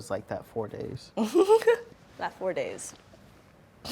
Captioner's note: laughing